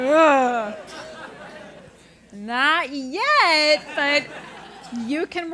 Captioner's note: laugh